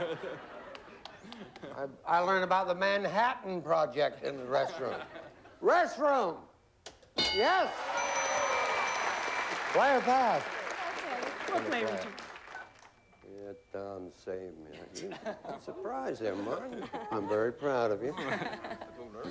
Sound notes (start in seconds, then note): 7.7 applause